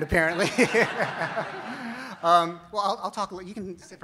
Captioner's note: audience laughs